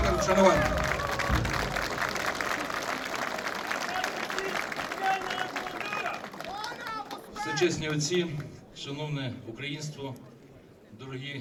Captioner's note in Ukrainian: оплески